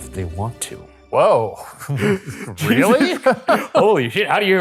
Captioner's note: laughing